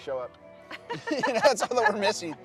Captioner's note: both chuckling